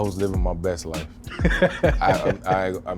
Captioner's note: laughing